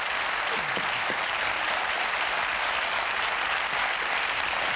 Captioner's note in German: Applaus